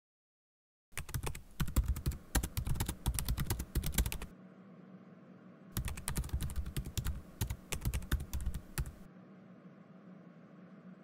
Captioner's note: typing